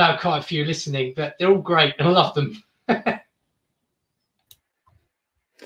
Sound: laughs

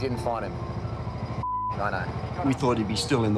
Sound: beep

